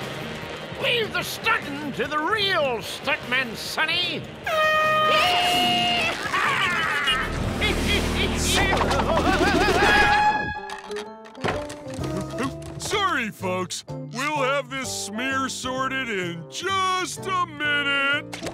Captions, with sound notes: Leave the stuntin' to the real stuntman, sonny. [air horn blaring] Yeehaw! [laughing] Whoa! [air horn blaring] Sorry, folks. We'll have this smear sorted in just a minute.